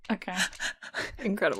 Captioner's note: laughs